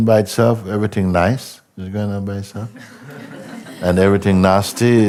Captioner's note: laughter